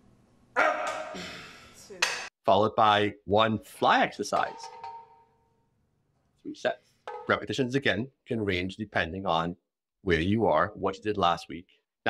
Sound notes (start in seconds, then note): 0.6 grunting